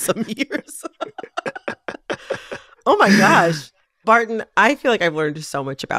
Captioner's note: laughter